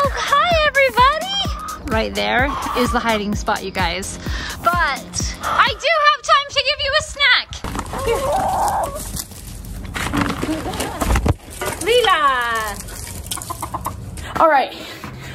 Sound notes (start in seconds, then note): 8.3 chickens clucking